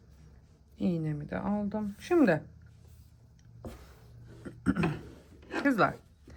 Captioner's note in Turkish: boğazını temizler